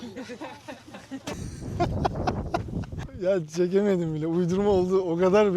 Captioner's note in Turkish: kahkaha